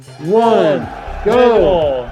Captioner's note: bell ringing